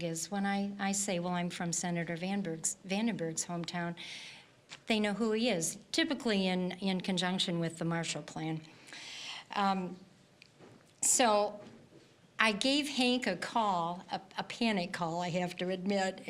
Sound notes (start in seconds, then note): none